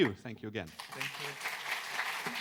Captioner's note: applause